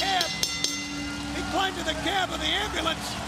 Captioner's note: bell ringing